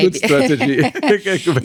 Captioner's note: laughing